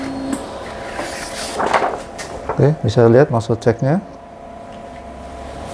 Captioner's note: PET film noise